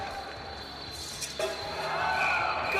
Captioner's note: whistle blows